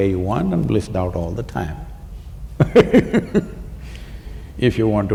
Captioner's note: laughs